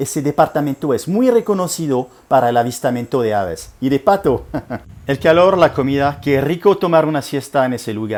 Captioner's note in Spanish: risa